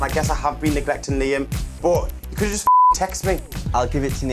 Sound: beep

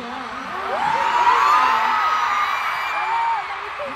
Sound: crowd erupts

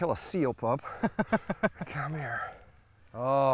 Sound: laughs

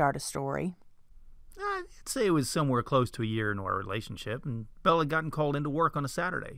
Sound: man's voice

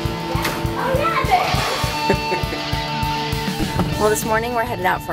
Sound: man laughs

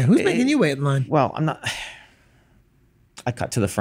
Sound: sighs

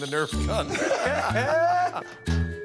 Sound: laughter

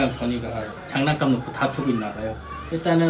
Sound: they're crying

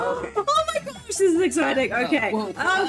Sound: gasps excitedly

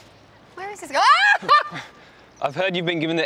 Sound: screams

